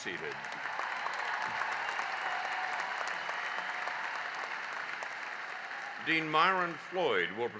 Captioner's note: applause